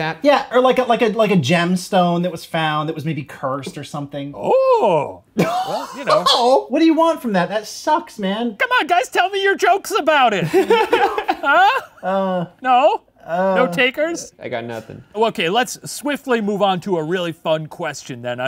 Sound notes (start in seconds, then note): 5.4 laughing; 10.4 laughing